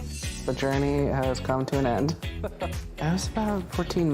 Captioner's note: laughter